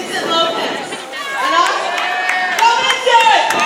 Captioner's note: applause